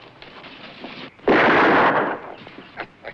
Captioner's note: gunshot; chuckles